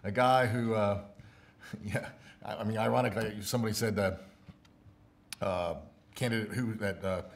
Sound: stumbles over words

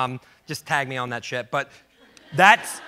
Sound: audience laughs

